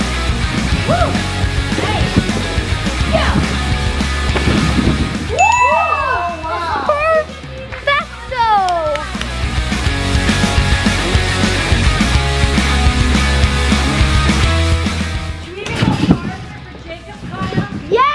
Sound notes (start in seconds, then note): 5.3 bell chiming; 5.3 cheering